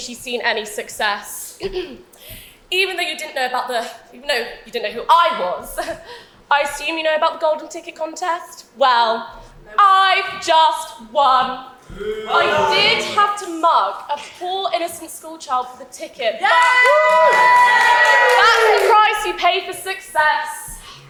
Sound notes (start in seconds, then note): 11.9 audience boos; 16.4 audience cheers